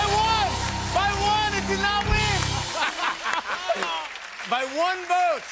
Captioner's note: laughter